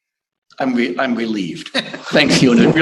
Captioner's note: laughter